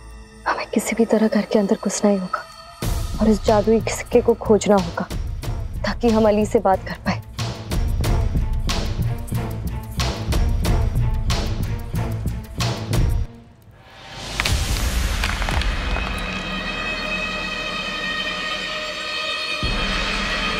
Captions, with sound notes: I must somehow enter the house and look for the magical coin so that I can speak with Ali! [tense music plays] [clanks]